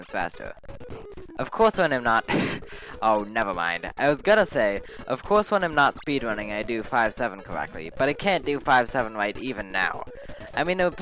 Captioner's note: laughs